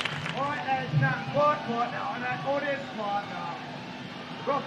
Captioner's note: crowd cheering